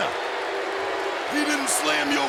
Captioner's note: audience booing